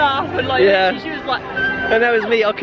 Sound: mocking scream

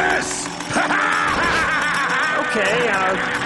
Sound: laughter

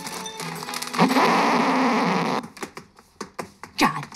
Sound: laughs; record scratches

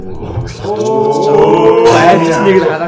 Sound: ohh

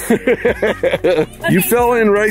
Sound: laughs

